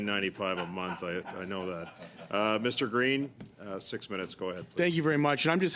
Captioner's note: laughter